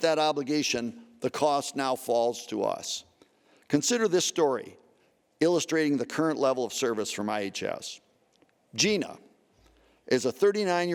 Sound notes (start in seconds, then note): none